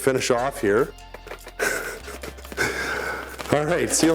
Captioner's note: laughs